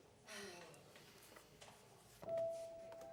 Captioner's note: Caralique sighs; whimsical piano music plays